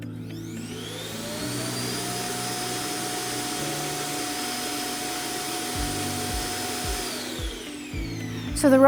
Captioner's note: Dock makes powerful vacuum noises